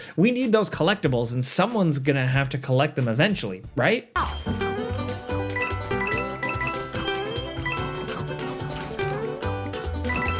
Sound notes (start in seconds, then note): 4.2 cheerful music; 5.5 coins chiming